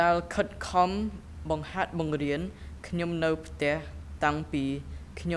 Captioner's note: speaking in a foreign language